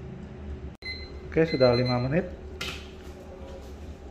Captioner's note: oven sound